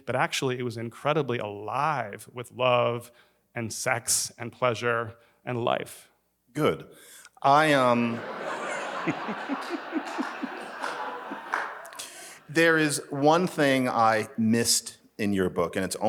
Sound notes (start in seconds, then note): 7.7 attendees laughs